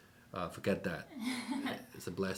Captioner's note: laughs